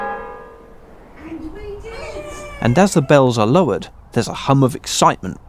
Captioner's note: cheers